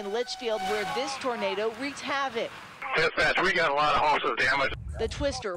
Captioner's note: sirens